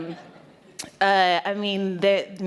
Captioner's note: laughter